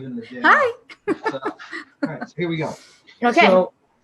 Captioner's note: laughter